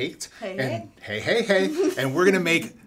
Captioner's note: laughs